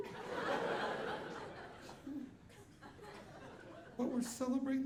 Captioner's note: audience laughing